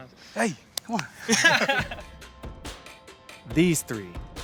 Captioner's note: claps; all laughs